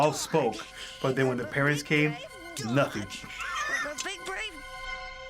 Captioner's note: laughs